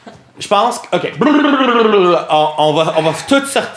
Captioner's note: Riz'shar exhales noisily